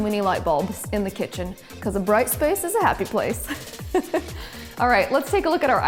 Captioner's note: laughs